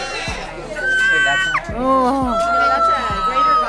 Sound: cawing

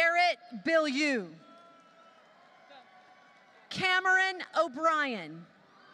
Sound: applause

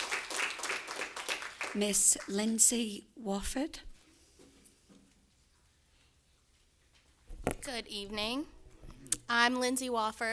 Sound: applause

